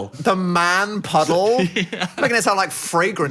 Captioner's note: laughs